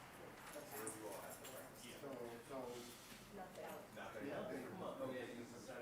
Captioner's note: participants chattering